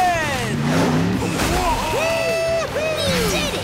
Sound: cheering

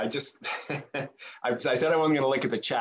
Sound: chuckles

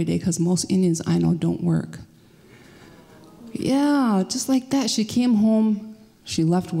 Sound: crowd sighs

